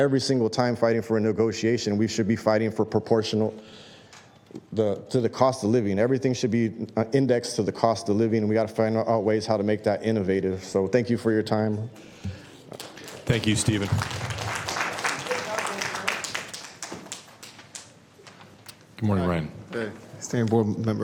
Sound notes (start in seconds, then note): 16.1 applause